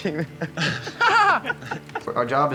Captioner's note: laughing